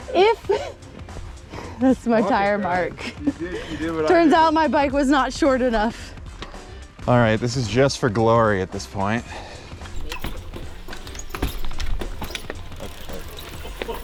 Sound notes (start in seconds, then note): 1.2 laughs; 9.9 wheels clunking